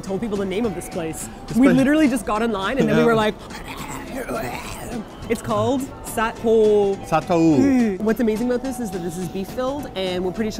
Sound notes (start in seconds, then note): 2.7 drooling